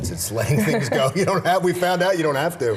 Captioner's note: laughing